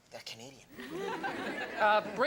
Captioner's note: audience laughs